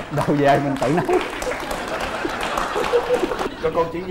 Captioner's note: laughing